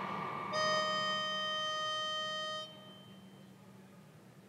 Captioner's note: playing tone